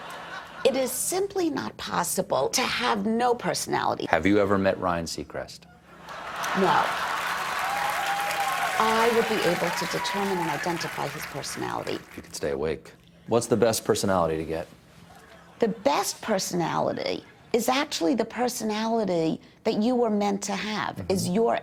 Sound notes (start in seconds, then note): 8.0 applause; 8.0 laughter